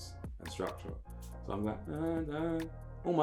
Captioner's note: hums